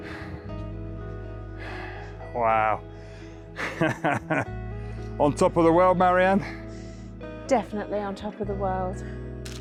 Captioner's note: sighs